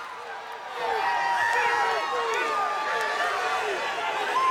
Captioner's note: crowd cheering